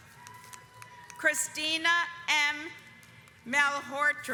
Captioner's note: audience applauds